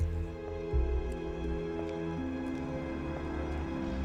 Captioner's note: footsteps, eerie music